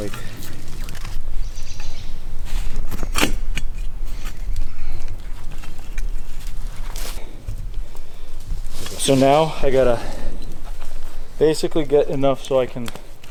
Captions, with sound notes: How to like... (birds chirping) (platform clanking) So now I gotta basically get enough so I can,